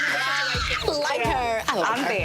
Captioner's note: overlapping chattering